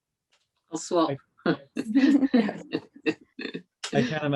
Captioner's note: laughter